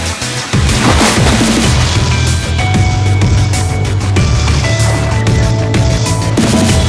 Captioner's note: upbeat music continues; water splashing